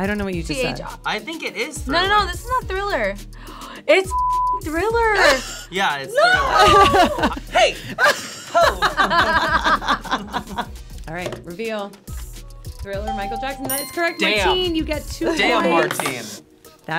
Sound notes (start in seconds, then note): 3.2 gasps; 8.8 all laughing